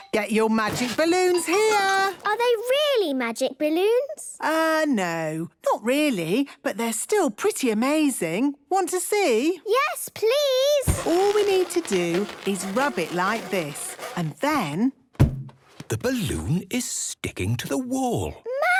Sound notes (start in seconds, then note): 10.8 balloon rubbing; 14.8 balloon echoes